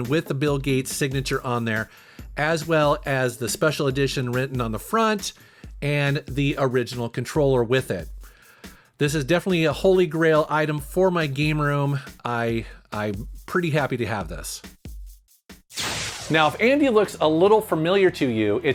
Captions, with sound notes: with the Bill Gates signature on there, as well as the "Special Edition" written on the front and the original controller with it. This is definitely a holy grail item for my game room. I'm pretty happy to have this. (screen fizzles) (metal music) Now if Andy looks a little familiar to you,